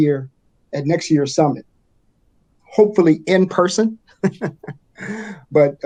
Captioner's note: chuckles